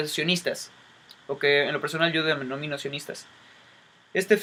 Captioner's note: in spanish